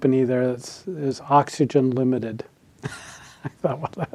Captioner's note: laughs